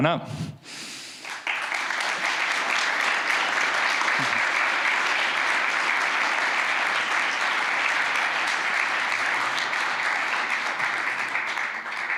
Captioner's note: applause